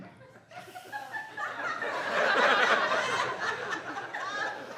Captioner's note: audience laughing